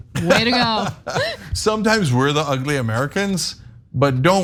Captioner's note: laugh